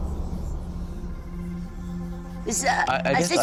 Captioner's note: speaking french